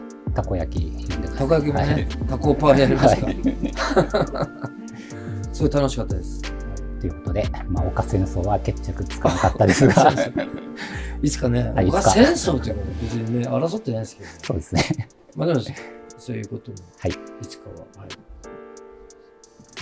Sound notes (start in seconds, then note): 9.3 laughing